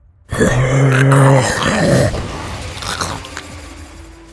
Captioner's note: grunts from demons